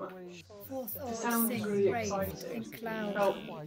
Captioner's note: indistinct background chatter